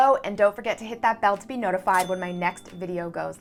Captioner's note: bell chimes